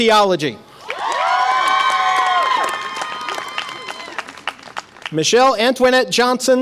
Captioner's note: audience applause and cheer